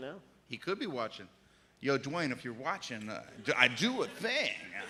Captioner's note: laughter